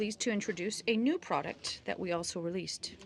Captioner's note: speaking French